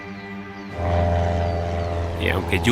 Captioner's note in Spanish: Ruido de la avioneta